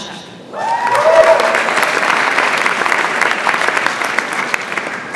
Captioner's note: audience applauds